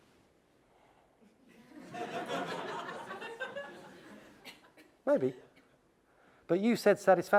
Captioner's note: laugh